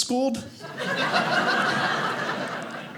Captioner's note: audience laughing